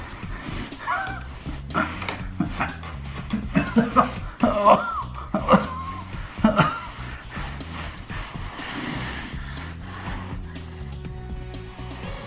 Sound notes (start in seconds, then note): 0.6 chuckles; 4.7 groans